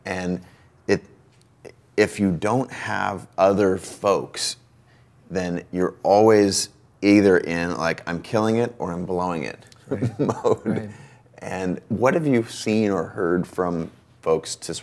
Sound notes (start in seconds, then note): 9.9 both chuckle